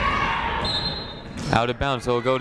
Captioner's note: whistle blows